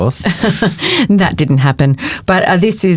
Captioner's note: chuckles